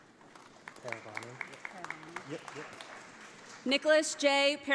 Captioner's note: audience applauds